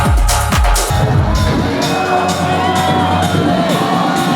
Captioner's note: fans clamoring